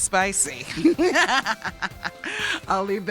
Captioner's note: laughs